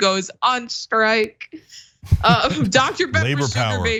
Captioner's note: laugh